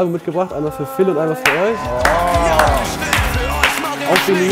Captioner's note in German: Jubel, Applaus